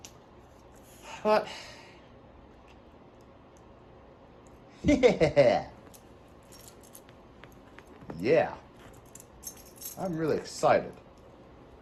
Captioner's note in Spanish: Ella se ríe